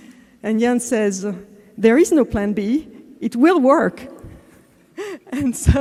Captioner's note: laugh